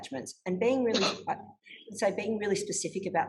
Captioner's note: sneezes